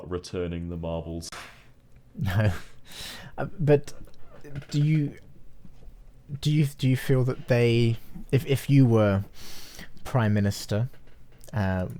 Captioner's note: chuckles